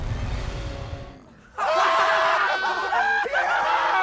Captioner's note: all laugh